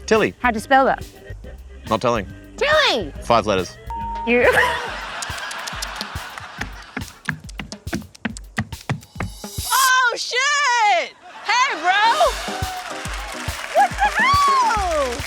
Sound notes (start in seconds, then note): 4.4 laughter; 5.2 clicks tongue; 11.3 cheering and applause